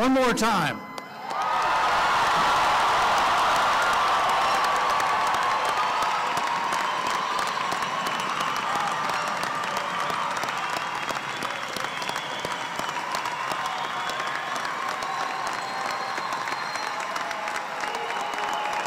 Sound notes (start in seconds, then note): 9.4 applause